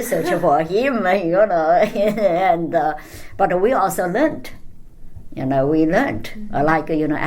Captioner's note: laughs